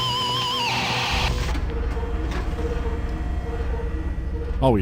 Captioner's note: mechanical whirring